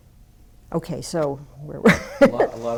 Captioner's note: laughs